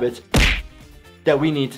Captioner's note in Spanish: pies golpeando